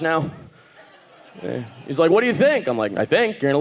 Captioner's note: audience laughing